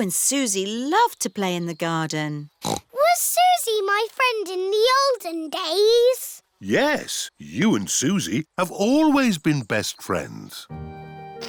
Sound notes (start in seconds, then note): 2.6 snorts